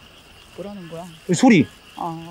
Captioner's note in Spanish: Escuchando algunos animales raros